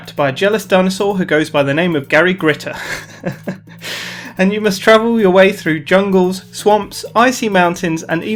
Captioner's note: haha!